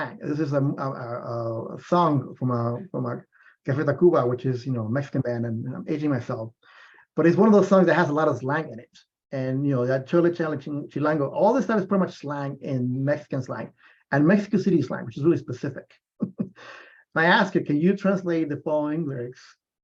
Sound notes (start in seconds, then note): 9.4 non-english speech; 16.2 laughs